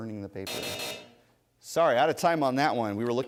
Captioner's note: buzzer